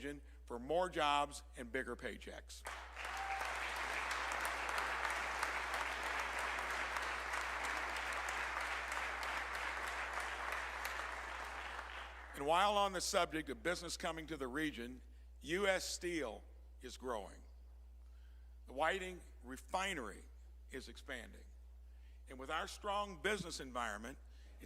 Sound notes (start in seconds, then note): 5.7 applause